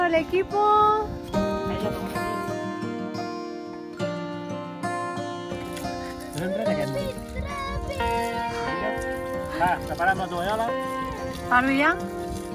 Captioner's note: laughs